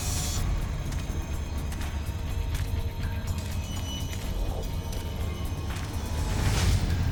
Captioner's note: tense music; footsteps tapping